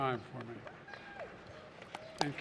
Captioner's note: applause